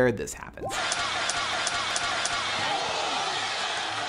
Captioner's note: crowds cheering